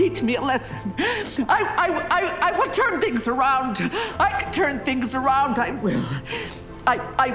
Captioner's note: stumbling over her words